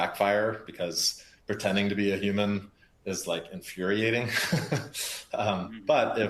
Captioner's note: laughs